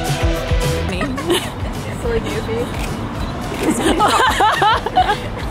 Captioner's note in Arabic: تضحك